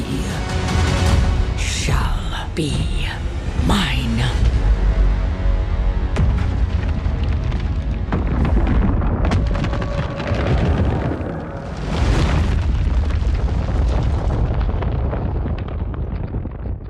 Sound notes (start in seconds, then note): 5.1 dramatic music playing; 8.7 ominous cracking